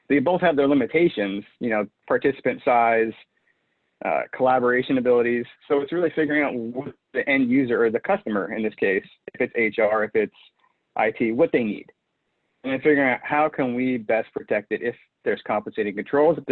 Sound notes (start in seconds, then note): none